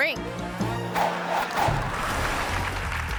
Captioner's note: logo whooshing; audience applauding